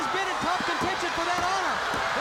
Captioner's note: crowd cheering